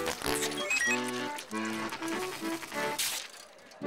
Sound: squishing; whirring

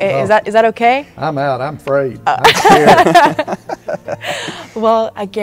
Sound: everyone laughs

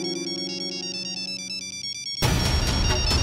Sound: phone ringing

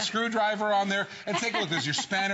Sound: laughter

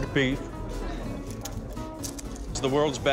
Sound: light crunching

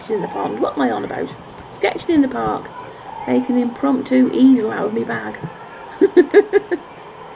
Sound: chuckles

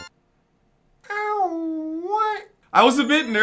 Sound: makes smw level ending ahh ooh ah noise

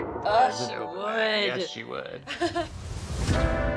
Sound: chuckles

